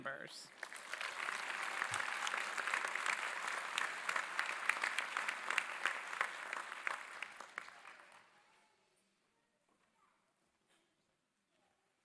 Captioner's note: applause